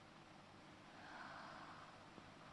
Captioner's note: sighs